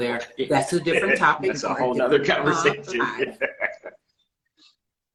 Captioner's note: laughing